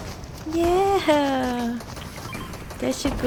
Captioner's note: chuckles